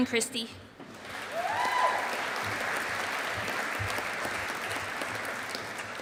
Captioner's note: audience applauding